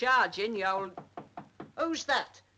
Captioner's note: door knocks